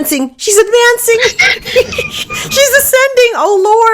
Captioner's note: laughing